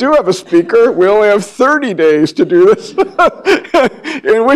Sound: laughs

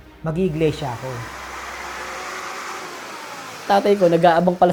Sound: motorcycle whirring

